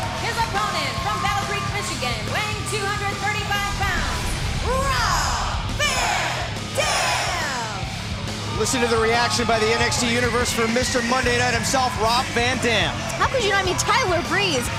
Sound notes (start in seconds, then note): 10.0 cheers & applause